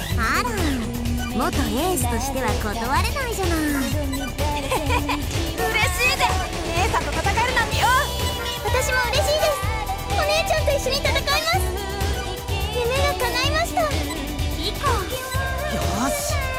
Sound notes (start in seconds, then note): 4.5 chuckle